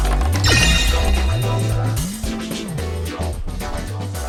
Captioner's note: arcade winning sound!